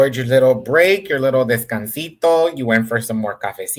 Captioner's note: speaks in Spanish